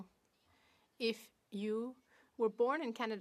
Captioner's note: speaking French